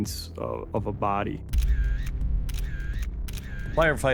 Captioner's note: camera shuttering